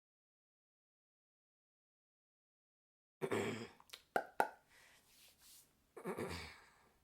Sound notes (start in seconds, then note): 3.2 clears throat; 3.9 pop noises; 6.0 clears throat